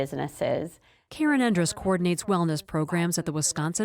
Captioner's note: voice-over